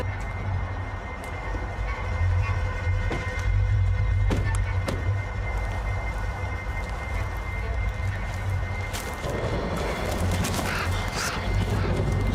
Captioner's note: chuckles